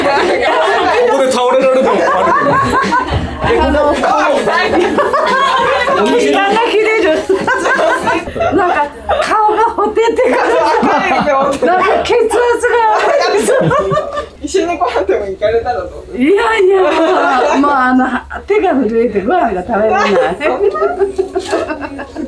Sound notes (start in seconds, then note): 11.1 laughs; 19.9 laughs